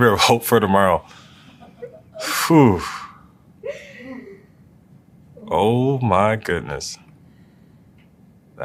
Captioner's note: laugh